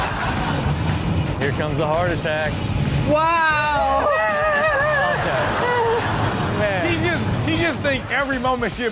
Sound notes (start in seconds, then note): 3.8 person screams; 4.4 audience laughs